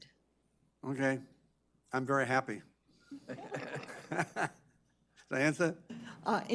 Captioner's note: laughs